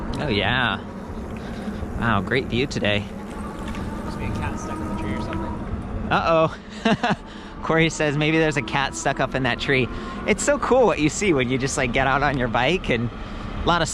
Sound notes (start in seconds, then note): 6.2 laughs